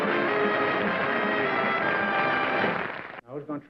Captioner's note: applause